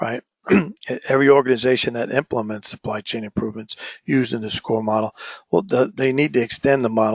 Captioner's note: cough